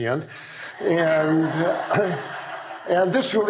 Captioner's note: laughter